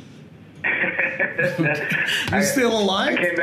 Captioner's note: laughs